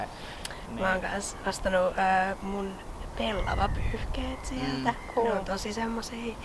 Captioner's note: wind goes whoosh and seagull screams